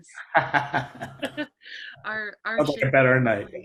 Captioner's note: laughter